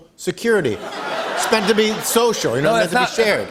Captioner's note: laughter